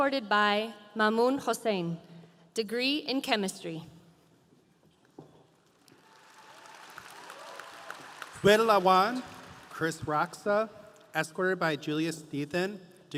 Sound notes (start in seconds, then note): 5.9 audience applauding